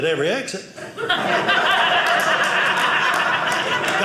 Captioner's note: audience laughing